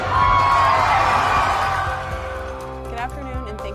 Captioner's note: crowd; crowd cheering